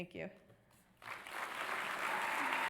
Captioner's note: audience applause